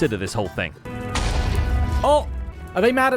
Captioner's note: explosion